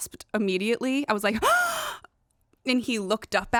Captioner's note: gasps